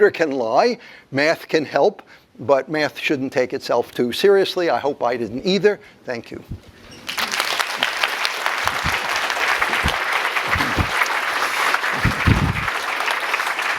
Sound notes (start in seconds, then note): 7.0 applause